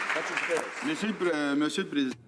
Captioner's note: some Applause